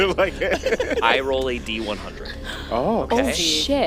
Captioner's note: laughing at him